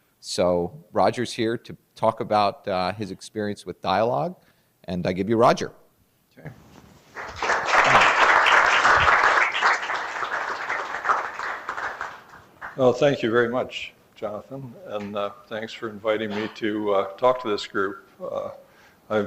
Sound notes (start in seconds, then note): 7.1 applause